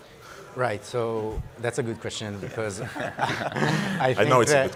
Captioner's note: laughs